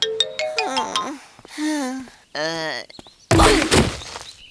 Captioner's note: grumbling